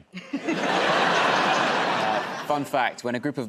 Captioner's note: laughter